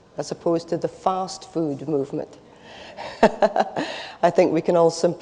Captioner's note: laughs